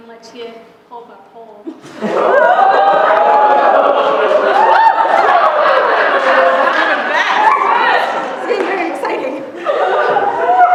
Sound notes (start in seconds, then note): 2.0 cheering